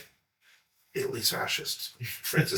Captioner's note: laughs